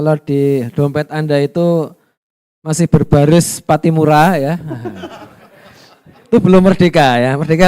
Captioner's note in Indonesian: tertawa